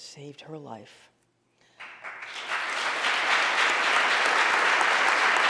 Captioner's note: audience applauding